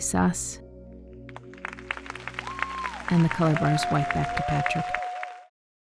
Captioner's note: audience applauds